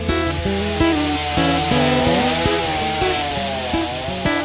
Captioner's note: acoustic guitar finger-picking in bright rhythm; buzzing of a chain saw